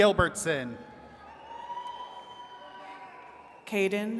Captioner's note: attendees cheering